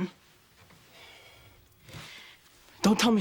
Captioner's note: sigh